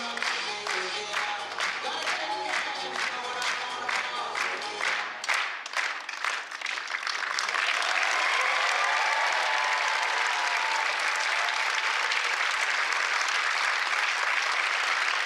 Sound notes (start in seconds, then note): 8.8 applause